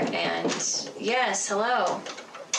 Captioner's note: knocking on door